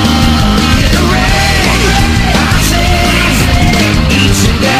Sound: rage

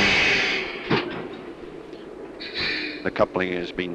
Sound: sound of the train idling

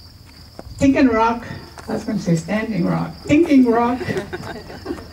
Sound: chuckles

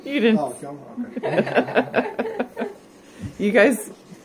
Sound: laughter

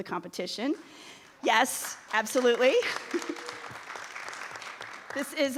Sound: audience applauding

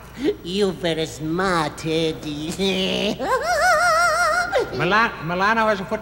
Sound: laughing

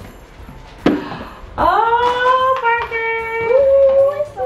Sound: gasps

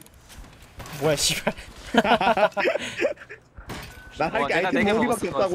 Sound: laughs

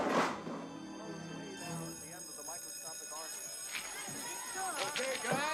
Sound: bell rings

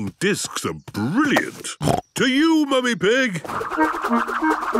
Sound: snorting

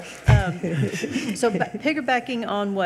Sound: laughing

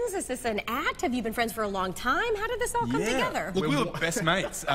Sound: laughter

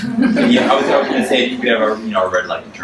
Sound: audience laughs

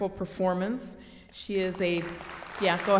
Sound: audience applauds

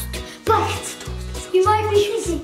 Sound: whispers

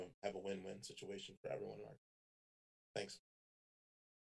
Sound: audio cuts

